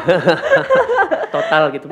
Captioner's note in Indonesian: tertawa